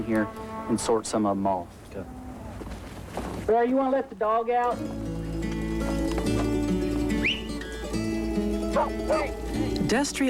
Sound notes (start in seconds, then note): 7.1 man whistles; 8.7 dog barks